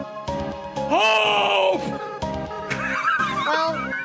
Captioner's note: laughs